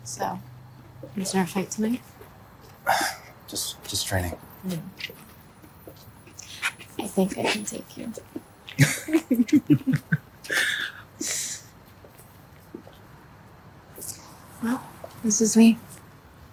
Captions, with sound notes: - So, you start a fight tonight? - Just training. - I think I can take you. (both laughing) Well this is me.